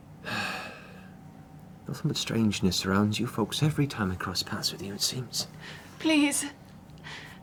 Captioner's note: sighs